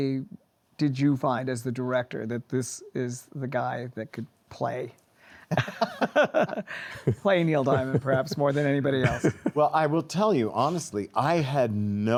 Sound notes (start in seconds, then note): 5.5 laughs